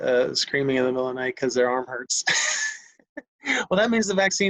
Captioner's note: laughs